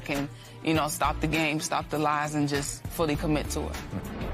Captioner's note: tearfully